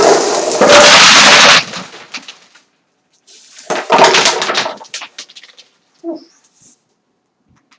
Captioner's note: crashing pellets